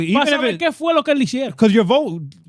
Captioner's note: speaking In Foreign Language